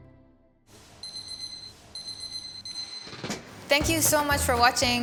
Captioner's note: alarm beeping